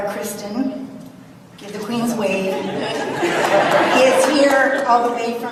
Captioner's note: audience laughs